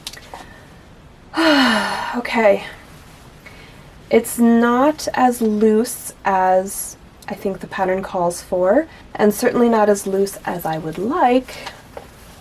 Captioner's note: vocalized sigh